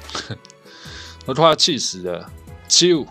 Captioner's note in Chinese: 苦笑